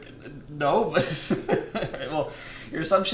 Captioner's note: laughs